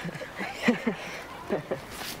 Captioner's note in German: Marlon lacht